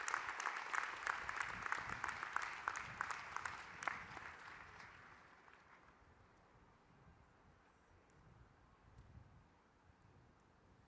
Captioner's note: applause